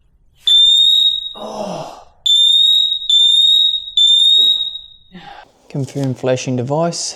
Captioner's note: sigh; grunts; beeping